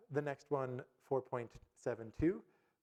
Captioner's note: none